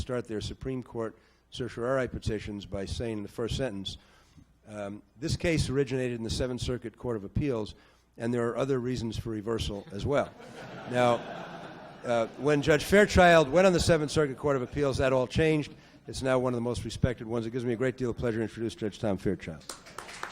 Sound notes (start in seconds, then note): 10.3 audience laughs; 19.6 audience applauds